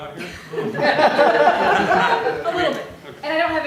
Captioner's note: laughter